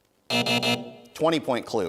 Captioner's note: buzzing